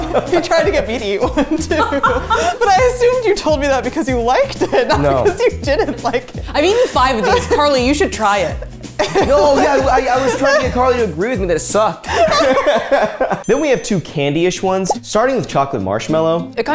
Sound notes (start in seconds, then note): 12.1 laughing